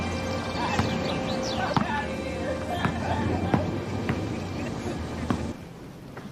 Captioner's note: prisoners chattering; prisoners laughing